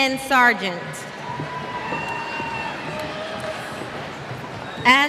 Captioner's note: cheers